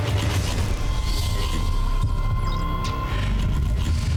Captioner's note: gears whirling